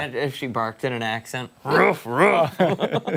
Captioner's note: laughter